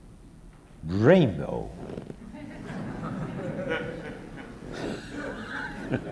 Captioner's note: audience Laughter